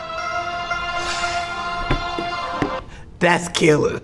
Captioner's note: laughs